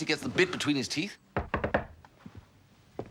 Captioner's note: knocks at the door